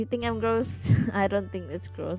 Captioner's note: laughs